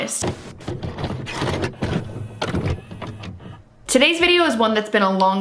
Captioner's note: tape clicking